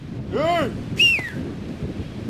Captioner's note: whistling